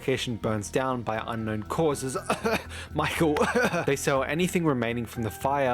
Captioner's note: cough